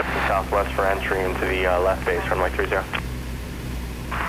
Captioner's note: radio chatter